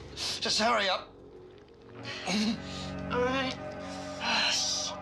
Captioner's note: groans